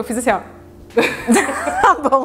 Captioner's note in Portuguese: risos